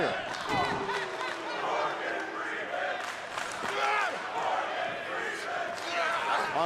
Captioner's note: crowd cheering